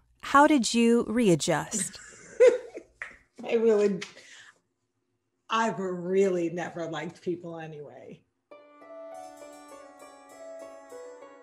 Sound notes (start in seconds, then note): 1.7 laughing; 8.5 gentle music